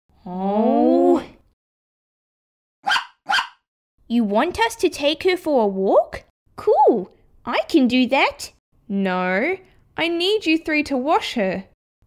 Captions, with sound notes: Oh... (Barking!) You want us to take her for a walk? Cool! I can do that! No, I need you three to wash her